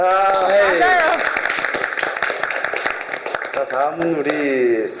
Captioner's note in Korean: 박수